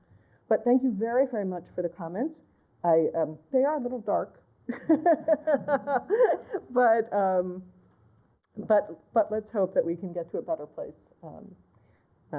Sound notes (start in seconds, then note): 4.7 laughter